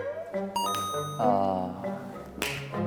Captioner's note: clap!